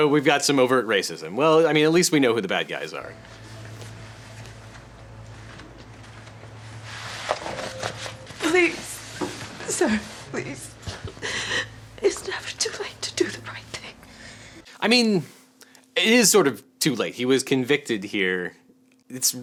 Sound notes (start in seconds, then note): 6.9 paper rustling; 11.0 weeping